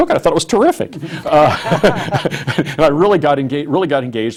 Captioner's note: laughs